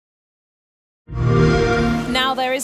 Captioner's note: xbox sound